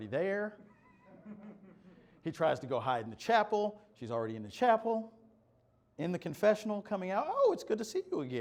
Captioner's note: laughter